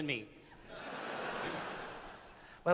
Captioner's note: laughter